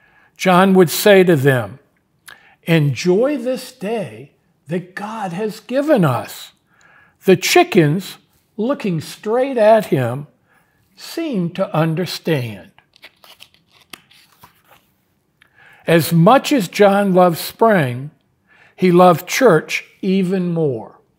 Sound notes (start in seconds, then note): 12.7 pages rustling